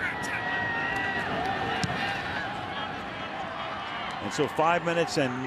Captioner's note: crowd cheering